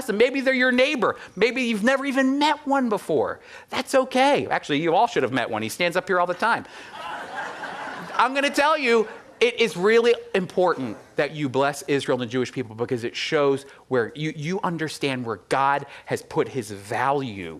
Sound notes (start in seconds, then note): 6.8 audience laughing